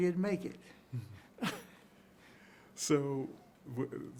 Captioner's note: both chuckling